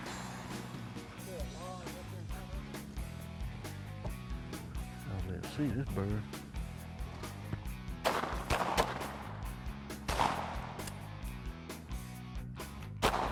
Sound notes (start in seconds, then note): 0.2 soft rock music; 8.0 gun bangs